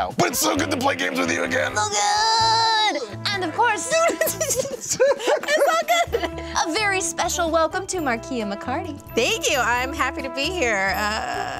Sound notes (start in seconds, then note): 3.4 laughing